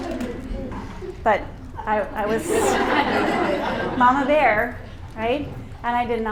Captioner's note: laughter; laughter